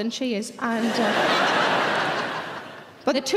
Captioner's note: audience laughing